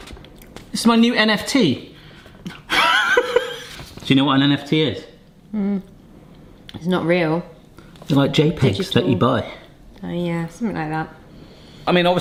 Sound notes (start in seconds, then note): 2.5 laughing